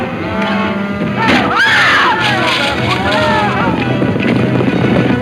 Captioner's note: wood snapping; Mary screaming; hooves thundering